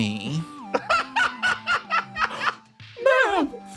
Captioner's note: laugh